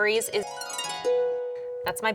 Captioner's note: bells chime